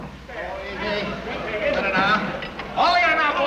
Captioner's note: men chattering